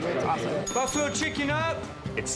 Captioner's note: bell dings